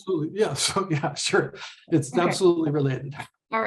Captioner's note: laughs